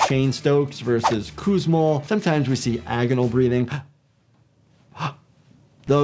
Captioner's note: gasping